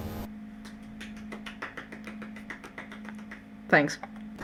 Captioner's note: one person clapping vaguely heard in the background